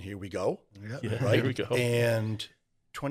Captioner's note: laughs